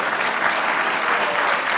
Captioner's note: applause